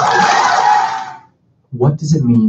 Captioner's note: applause